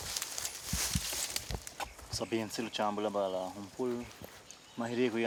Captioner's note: speaking foreign language